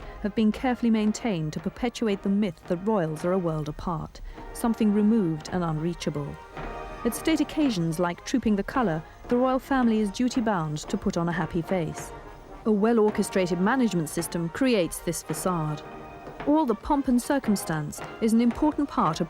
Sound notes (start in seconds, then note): none